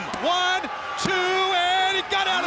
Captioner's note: hands thudding